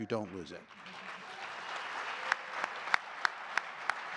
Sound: audience clapping

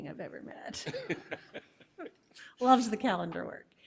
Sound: chuckling

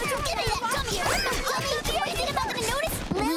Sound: arguing

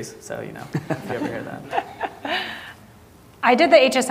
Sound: audience laughing

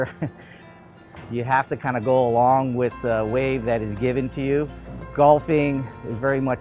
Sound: chuckles

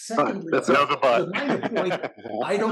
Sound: laugh

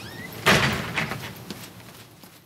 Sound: door slams

